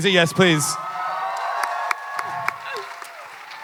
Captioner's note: audience clapping and cheering